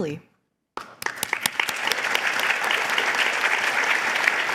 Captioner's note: applause